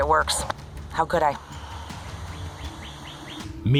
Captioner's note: birds